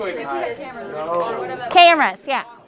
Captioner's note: classroom mumbling